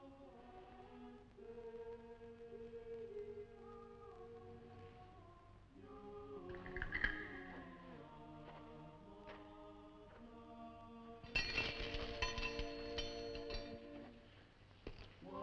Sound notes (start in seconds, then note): 11.3 chains rattling